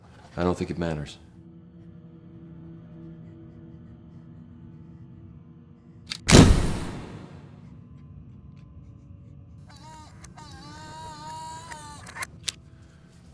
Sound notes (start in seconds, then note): 6.2 loud whooshing; 11.0 whirring